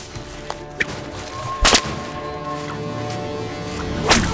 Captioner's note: whip cracking